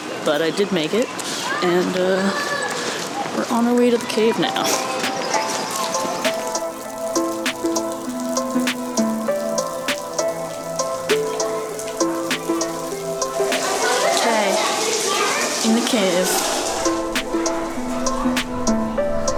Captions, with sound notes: but I did make it, and we're on our way to the cave now. [Water dripping] Okay...in the cave.